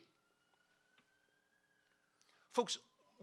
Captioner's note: police siren ringing